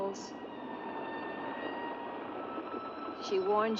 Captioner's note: eerie music; waves rolling